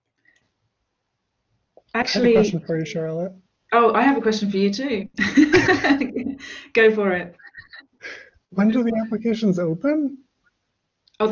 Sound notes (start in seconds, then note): 5.1 laughs gently